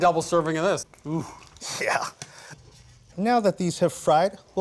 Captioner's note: chuckling